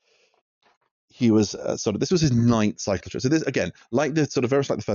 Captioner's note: sighs